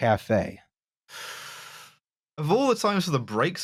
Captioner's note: breathes in sharply